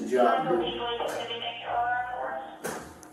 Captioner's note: radio chatter